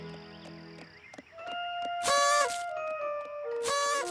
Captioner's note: honk!; honk! honk! honk! honk!